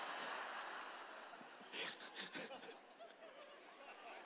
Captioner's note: laughter